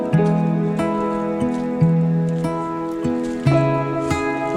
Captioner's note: lamenting